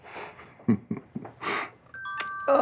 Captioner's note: cell phone chimes